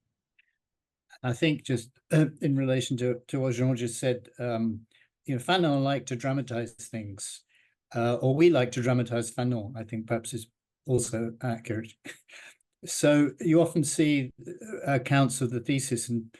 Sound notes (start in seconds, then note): 10.9 chuckles